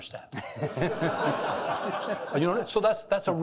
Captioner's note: chuckling